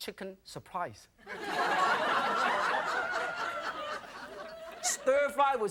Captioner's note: audience laughing